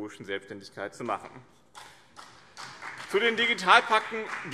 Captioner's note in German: Beifall BÜNDNIS 90/DIE GRÜNEN und vereinzelt CDU